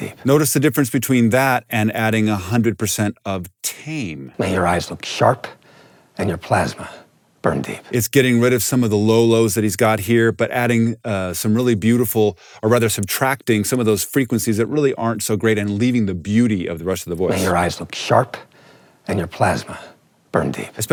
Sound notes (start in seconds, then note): 0.0 movie dialogue plays; 3.6 movie dialogue plays; 17.1 movie dialogue plays